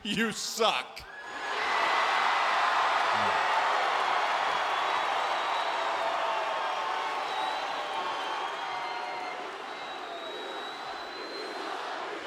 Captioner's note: applause